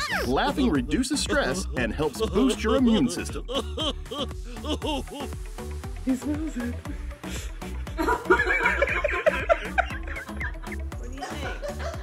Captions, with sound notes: Laughing reduces stress and helps boost your immune system. (laughing) (upbeat music)